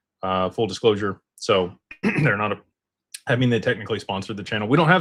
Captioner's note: clears throat